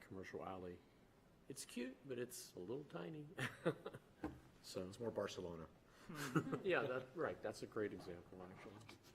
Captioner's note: laughter